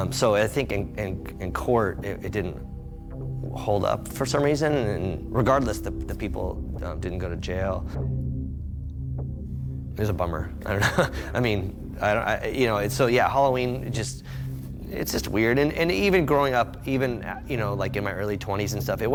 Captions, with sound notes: So I think in court, it didn't hold up for some reason and regardless, the people didn't go to jail. It was a bummer. (chuckles) I mean, you know, so yeah, Halloween just, it's just weird. And even growing up, even like in my early 20s and stuff,